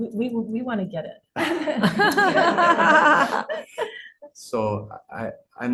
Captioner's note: laughter